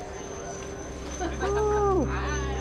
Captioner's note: laughter